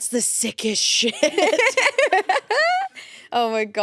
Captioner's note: everyone laughs